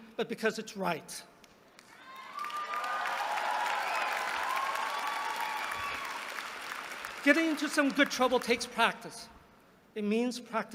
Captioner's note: applause